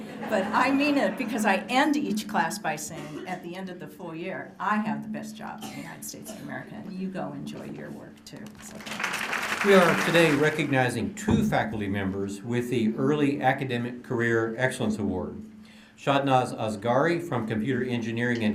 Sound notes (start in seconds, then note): 0.0 laughter; 8.4 applause